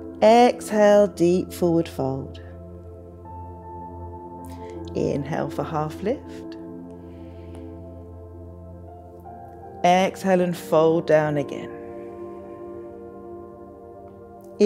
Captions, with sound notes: Exhale, deep forward fold. Inhale for half lift, (inhales) exhale and fold down again. (exhales)